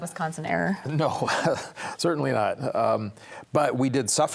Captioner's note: chuckles